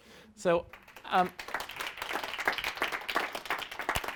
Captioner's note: audience applauds